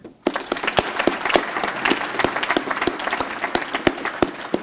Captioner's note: applause